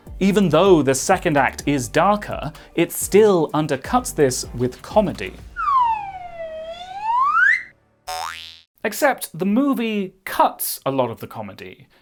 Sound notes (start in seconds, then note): 5.5 comedy slide whistle; 8.0 boing!